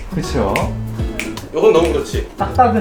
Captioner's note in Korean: 손가락 튕기는 소리